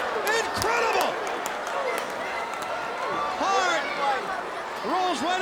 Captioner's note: applause